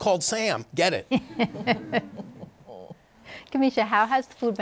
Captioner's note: laughter